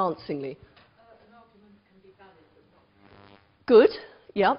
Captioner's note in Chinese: 無聲